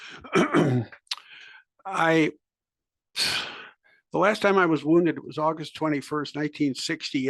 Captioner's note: cough